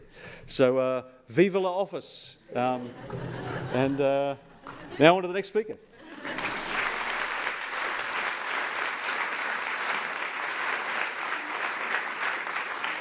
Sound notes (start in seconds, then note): 2.6 laughter; 6.0 applause